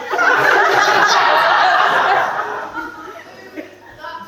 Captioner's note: audience laughs